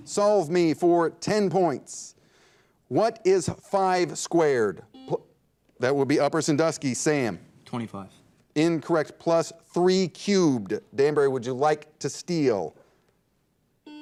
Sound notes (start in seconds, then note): 4.9 buzzer dings